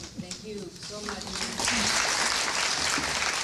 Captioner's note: applause